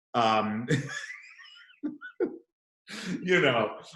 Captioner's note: laughs